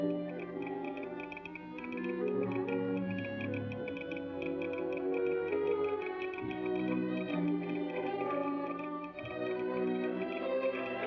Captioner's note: romantic music; telegraph machine tapping